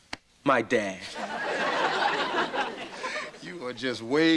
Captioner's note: audience laughter